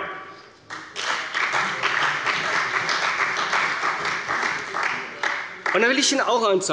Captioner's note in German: Beifall bei der CDU und bei dem BÜNDNIS 90/DIE GRÜNEN